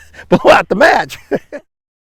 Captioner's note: laughter